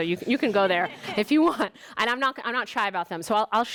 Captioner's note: student laughs